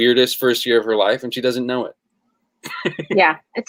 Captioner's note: laughs